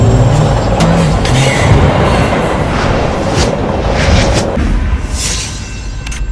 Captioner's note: sound of train passing